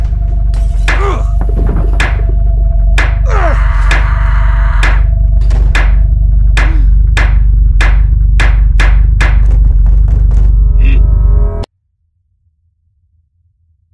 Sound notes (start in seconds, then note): 0.2 hammer hitting; 3.2 screaming continues; 7.7 hammer continues